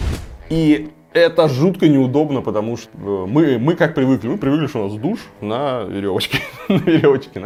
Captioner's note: laugh